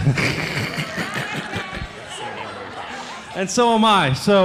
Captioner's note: laughing